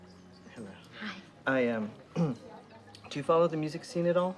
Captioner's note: clears throat